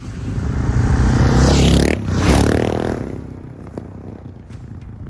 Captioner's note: motorcycles roaring